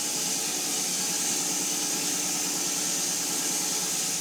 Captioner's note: mill whirring